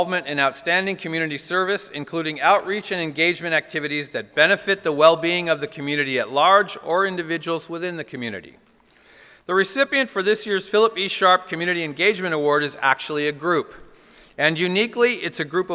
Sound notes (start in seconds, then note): none